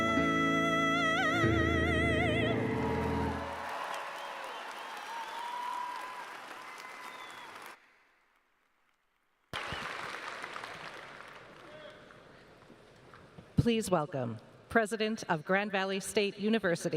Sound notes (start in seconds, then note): 2.5 cheers and applause